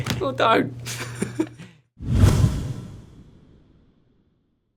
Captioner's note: laughter